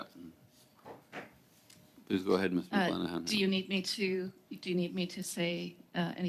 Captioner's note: speaking French